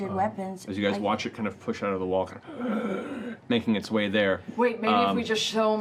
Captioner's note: gasping sound